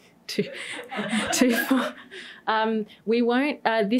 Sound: laughter

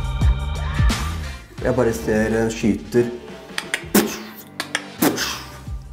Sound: makes shooting noises

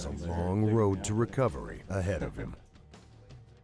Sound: voiceover

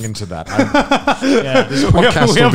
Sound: laughs

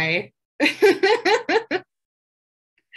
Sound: laughs

